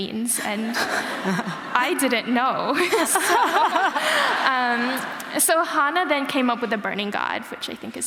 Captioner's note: laughter